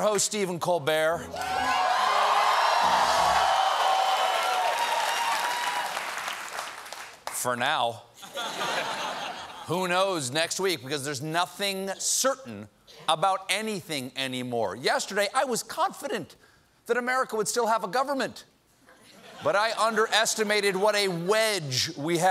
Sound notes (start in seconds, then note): 1.3 cheers and applause; 8.2 laughter